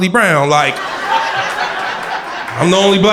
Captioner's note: crowd laughter